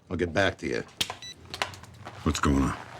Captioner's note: phone beeps